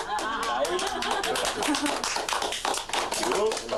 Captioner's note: group applauds